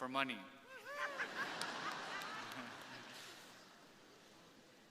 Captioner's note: crowd laughing